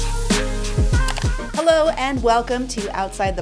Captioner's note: upbeat music; button clicking